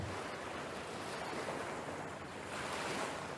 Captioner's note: waves crashing